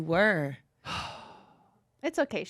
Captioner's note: sighs